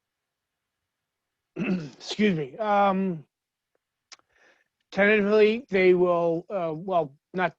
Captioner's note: clears throat